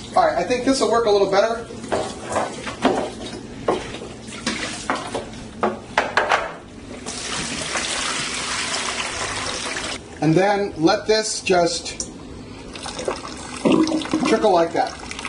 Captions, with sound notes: All right, I think this will work a little better. (dishes clattering) (water splashing) And then let this just trickle like that.